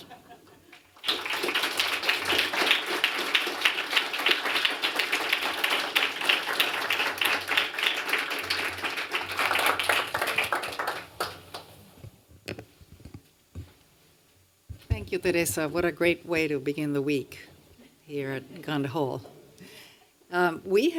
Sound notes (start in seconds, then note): 0.0 laughter; 1.5 applause